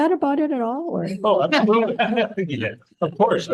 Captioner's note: attendees laughing